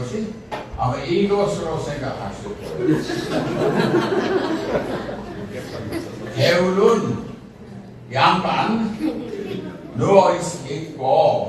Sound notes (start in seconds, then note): 2.6 laughs; 2.6 웃음